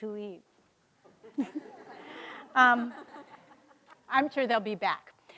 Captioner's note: audience laughing